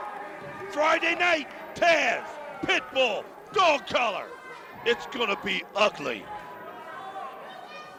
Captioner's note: crowd chatter; crowd cheering